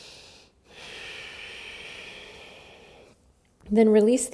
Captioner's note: deep inhale and exhale